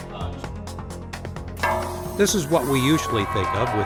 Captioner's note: glass breaking